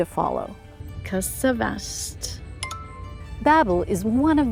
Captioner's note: speaking foreign language